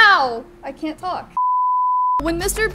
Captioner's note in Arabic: صفير